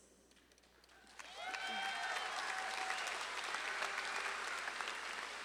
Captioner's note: audience claps and cheers